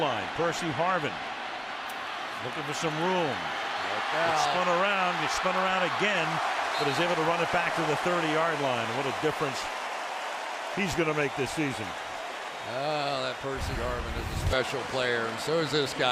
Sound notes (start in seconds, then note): 12.5 cheering